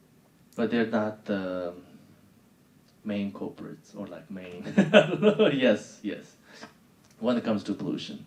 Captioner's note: laughing